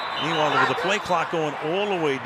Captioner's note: whistles